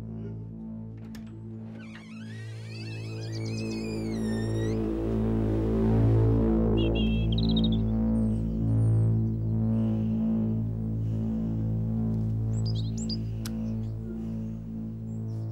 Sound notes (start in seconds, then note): 0.2 dramatic music; 0.9 door creaks; 6.6 birds chirping